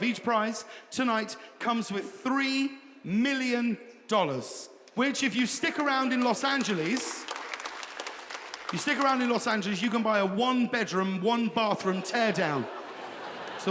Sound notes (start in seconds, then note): 7.3 audience applauding; 11.8 audience laughing